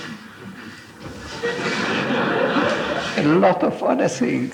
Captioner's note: audience laughs